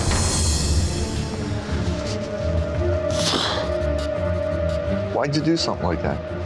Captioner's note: dramatic music; sighing